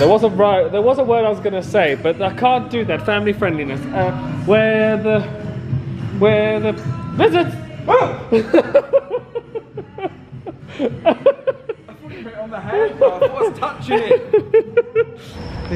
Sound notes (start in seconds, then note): 7.6 whoops; 8.2 laughing